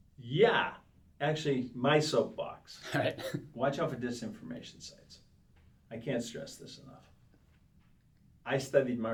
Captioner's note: laughs